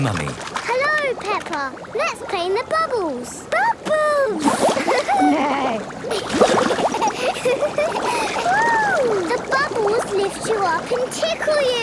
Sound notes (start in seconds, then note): 4.7 giggling; 5.0 giggling, neighing